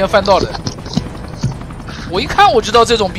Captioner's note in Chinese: 大笑